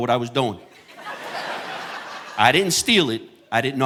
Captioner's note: audience laughing